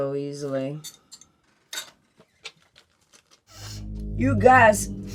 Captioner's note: glass tapping; sniffs